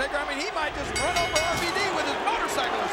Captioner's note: bell ringing